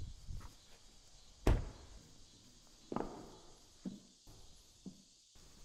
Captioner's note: car door closing